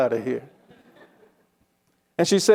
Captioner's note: attendees chuckling